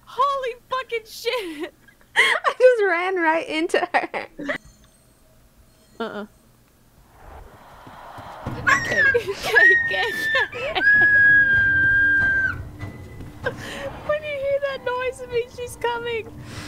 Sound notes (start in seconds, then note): 8.6 more squealing in fear im sorry